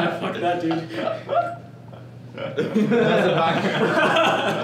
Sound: all laughing

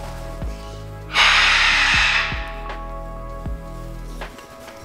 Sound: Rocky screams

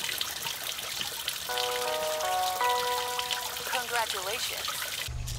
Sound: chime

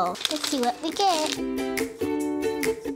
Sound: crinkling; fun, bouncy music

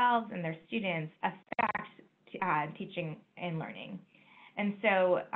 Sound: microphone sputters

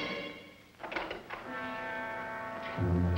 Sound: door opening and shutting; foreboding music playing

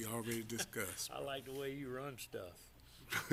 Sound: laughter

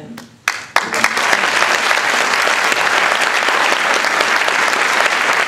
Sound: applause

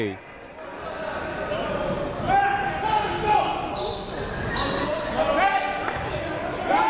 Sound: crowd talking; coaches yelling

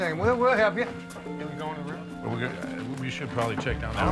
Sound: crowd murmuring

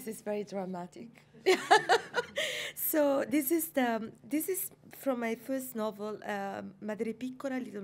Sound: laughs

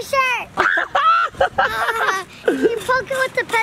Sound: laughing and screaming

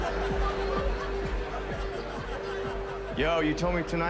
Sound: electronic dance music playing over speakers; lively chattering

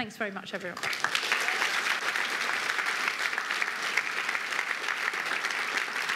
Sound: applause

